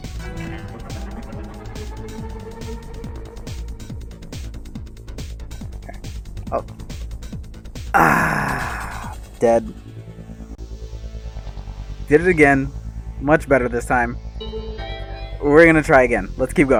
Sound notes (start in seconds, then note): 3.6 sigh